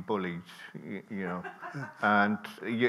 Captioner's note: people laughing